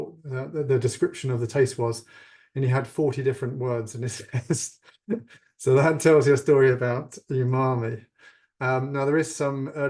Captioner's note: laughs